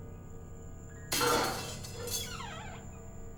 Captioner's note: clanging